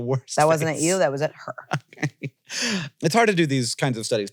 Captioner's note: laughs